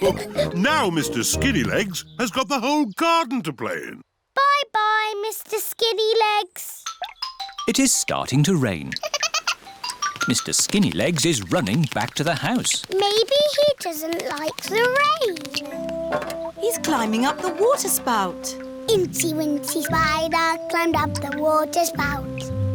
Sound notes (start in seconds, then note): 0.0 all laugh; 8.9 giggles